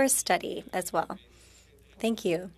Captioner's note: speaking French